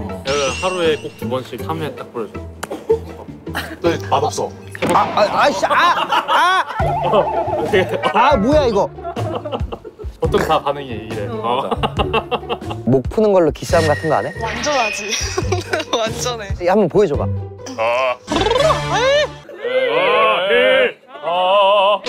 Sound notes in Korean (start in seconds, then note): 11.8 복식 웃음